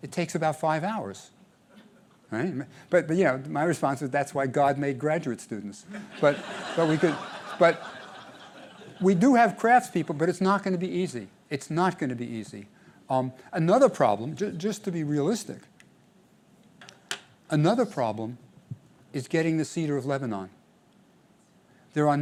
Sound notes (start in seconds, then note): 5.9 laughter